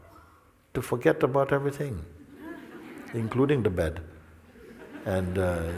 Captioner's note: risadas